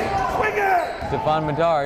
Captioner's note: yelling